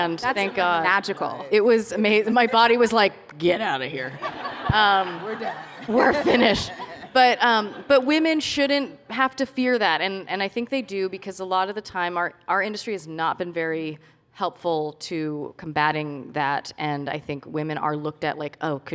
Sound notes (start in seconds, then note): 4.0 laughter